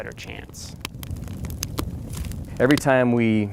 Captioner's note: fire crackles